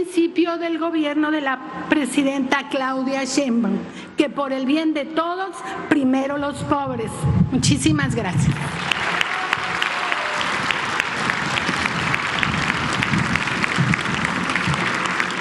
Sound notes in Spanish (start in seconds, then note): 12.1 aplausos